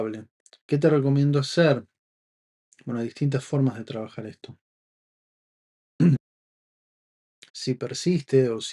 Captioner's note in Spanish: carraspeo